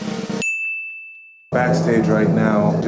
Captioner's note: drum roll; ding